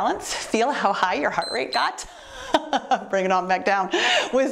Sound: timer beeps

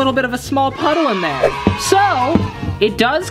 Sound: children cheering

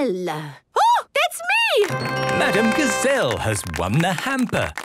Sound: applause

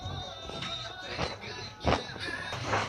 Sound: crunch crunch

